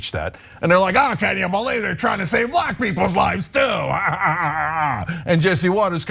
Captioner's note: laugh